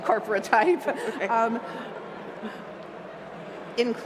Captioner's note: laughs